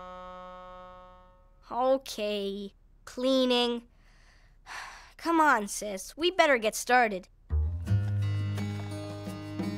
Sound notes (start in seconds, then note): 4.7 sighing